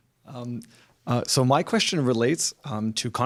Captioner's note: voiceover